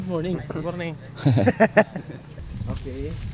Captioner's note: laughs